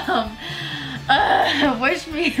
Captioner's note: grunts